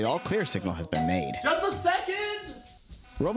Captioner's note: doorbell rings